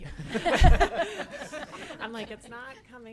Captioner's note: all laughing